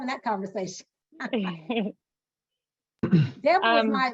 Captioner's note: laughing